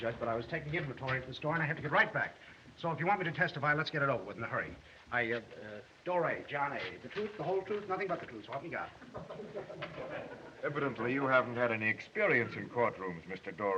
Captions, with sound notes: but I was taking inventory at the store, and I have to get right back. If you want me to testify, let's get it over with in a hurry. Uh, Doray, John A. The truth, the whole truth, nothing but the truth, so help me God. [ People Chuckling ] Evidently, you haven't had any experience in courtrooms, Mr. Doray.